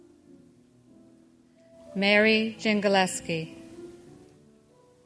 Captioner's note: none